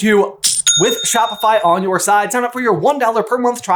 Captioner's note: cha-ching!